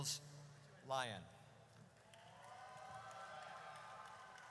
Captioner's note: audience cheers